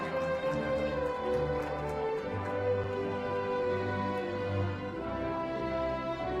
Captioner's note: applause